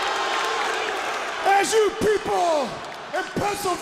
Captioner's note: crowd cheering